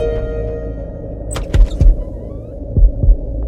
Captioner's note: Door opens